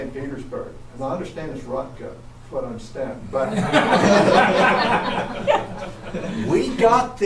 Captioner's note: audience laughs